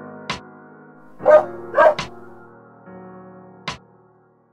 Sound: dog barks

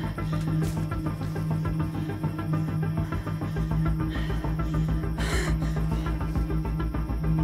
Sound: tense music continues; Sandra panting

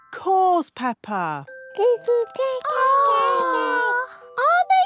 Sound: babies gurgle

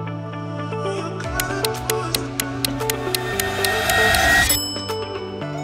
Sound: timer ticking; bell dings

